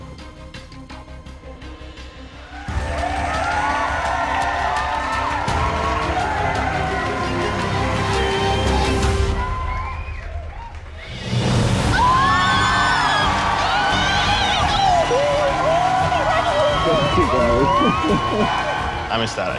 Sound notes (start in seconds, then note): 2.7 crowd cheering